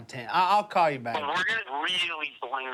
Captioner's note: on phone